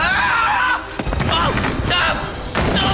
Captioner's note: groaning